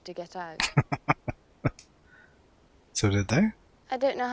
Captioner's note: chuckling